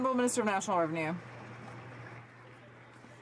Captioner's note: some Applause